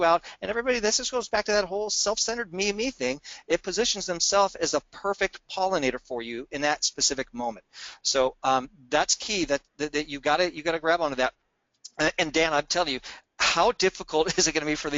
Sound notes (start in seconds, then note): none